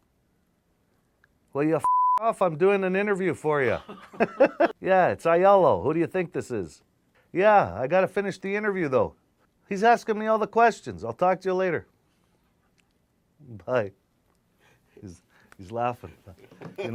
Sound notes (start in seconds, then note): 1.8 beep; 3.6 laughs